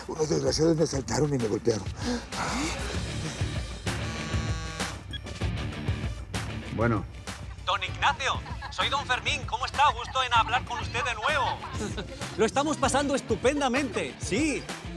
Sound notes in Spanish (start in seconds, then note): 3.9 Vibra el celular; 8.0 Acento español